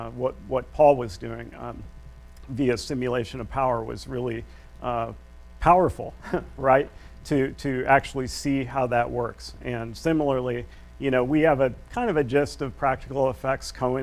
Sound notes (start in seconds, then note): 6.2 chuckles